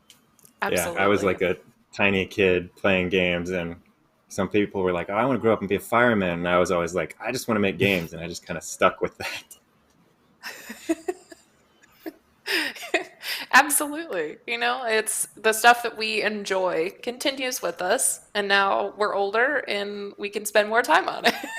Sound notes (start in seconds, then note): 10.4 chuckling